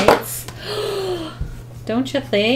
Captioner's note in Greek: Κοφτή ανάσα